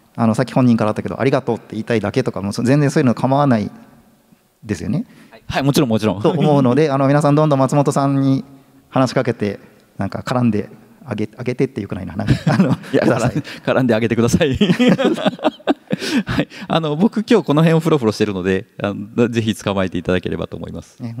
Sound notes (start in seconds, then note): 6.2 chuckles; 12.2 chuckles; 14.4 laughs